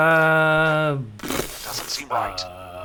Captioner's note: scoffs